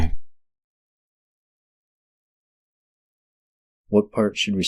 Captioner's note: long silence